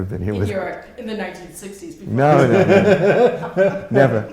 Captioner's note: laughter